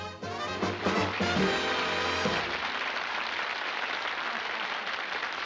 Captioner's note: applause